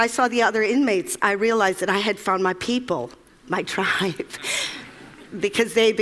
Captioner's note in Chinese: Laughter; 笑聲